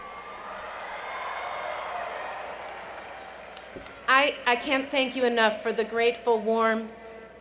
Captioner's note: cheering